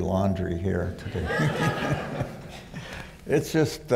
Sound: laughter

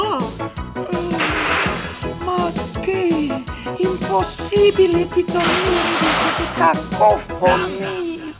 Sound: yawns

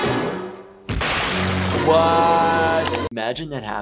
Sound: crashing noise

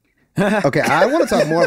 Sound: all laughing

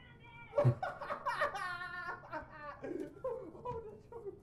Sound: Eloise ranting; Tariq laughing

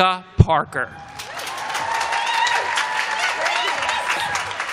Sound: applause

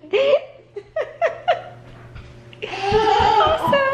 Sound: laughing

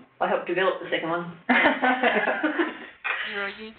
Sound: laughter

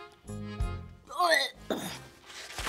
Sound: retches

